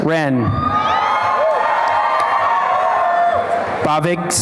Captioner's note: applause and cheering